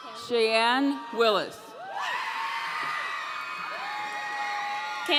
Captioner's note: audience cheering